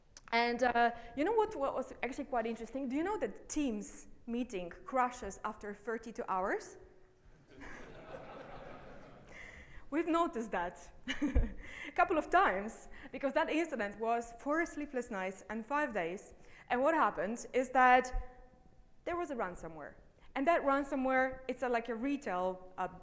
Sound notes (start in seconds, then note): 7.4 audience laughing